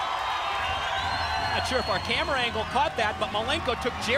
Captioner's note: crowd cheering